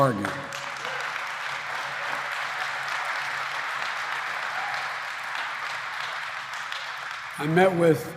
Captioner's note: applause